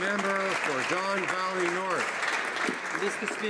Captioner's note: applause